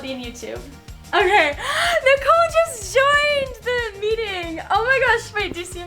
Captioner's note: gasp